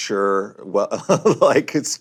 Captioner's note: laughs